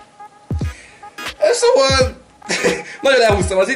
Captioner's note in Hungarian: nevetés